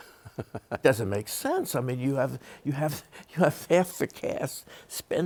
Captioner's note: chuckles